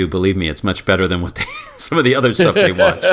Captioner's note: laugh